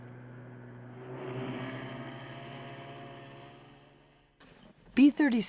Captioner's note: snow mobile engine whirring